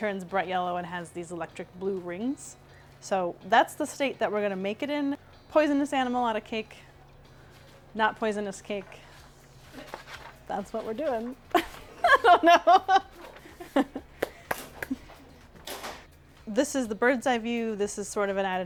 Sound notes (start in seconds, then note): 14.2 laugh